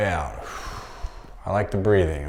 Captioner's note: exhaling